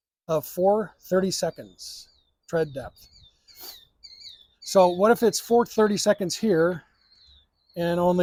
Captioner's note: birds chirping